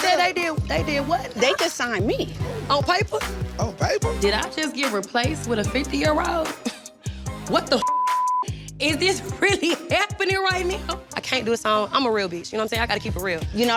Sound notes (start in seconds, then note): 2.0 thumping hip-hop music; 7.0 laughs; 11.6 thumping hip-hop music; 13.3 tense hip-hop music